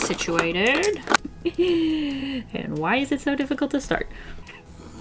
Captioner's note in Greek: Νευρικό γέλιο